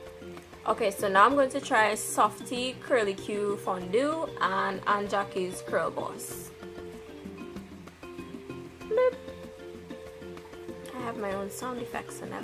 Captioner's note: bloop